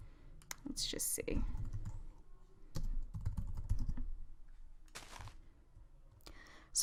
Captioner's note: typing